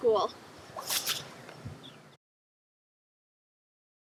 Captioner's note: caps flutter